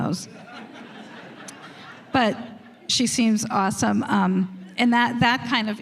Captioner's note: laughter